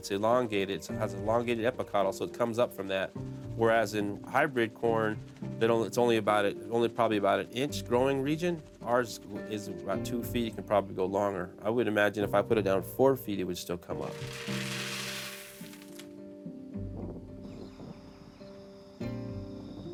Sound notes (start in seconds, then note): 14.0 beans rattling; 16.2 soft instrumental music